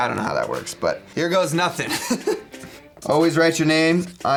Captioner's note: laughs